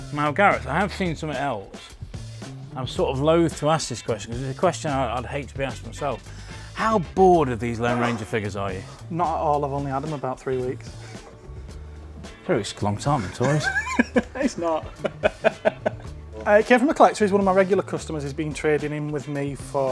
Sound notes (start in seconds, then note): 13.2 laughs